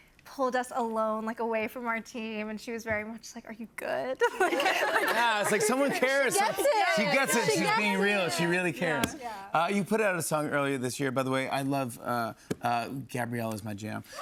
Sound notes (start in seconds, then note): 4.2 laughter